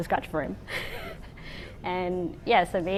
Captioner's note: laughs